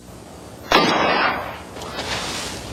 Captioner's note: gunshot